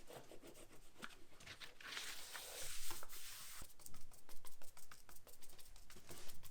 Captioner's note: rubbing sound; paint brushing